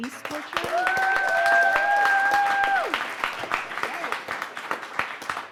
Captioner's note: audience claps and cheers